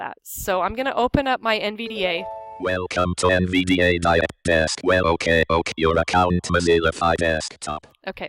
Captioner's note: NVDA voice speaking; NVDA voice stopped